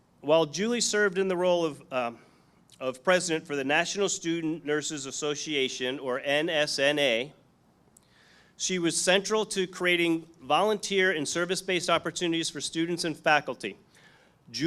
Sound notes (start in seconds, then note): none